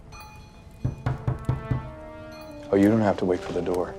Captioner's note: knocking